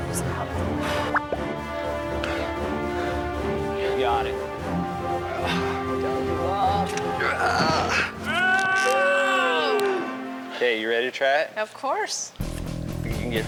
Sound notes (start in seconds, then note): 0.2 dramatic music; 6.5 grunting; 12.4 energetic music